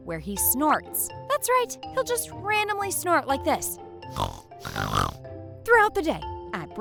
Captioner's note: snorting noise